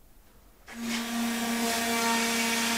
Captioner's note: whirring